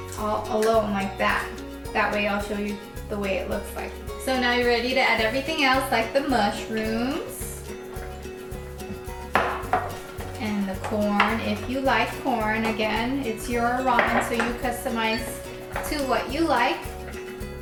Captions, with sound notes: all alone, like that. That way I'll show you the way it looks. So now you're ready to add everything else, like the mushrooms, (clattering) and the corn, if you like corn. Again, it's your ramen, so you customize to what you like.